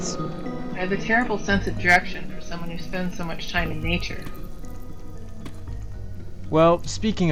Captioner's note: stompy